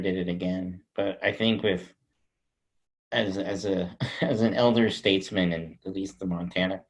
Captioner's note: chuckles